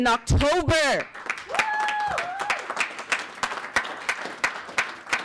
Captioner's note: audience clapping